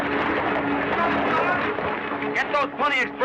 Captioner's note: yelling